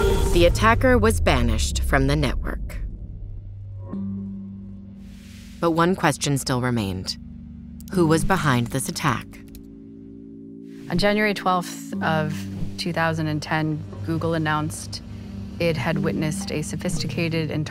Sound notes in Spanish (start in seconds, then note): 2.4 música meditativa; 9.1 sonido de tecleo